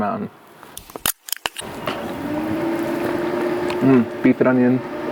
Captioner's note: pop tab clicks